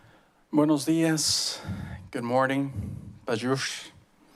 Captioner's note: foreign language